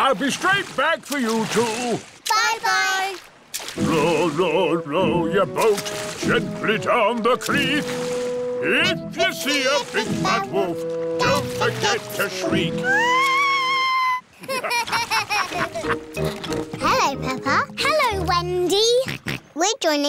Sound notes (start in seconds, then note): 12.8 shrieks; 14.4 laughter; 19.4 snorts